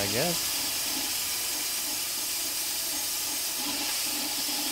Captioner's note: saw buzzing